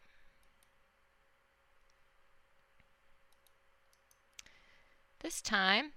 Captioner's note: silence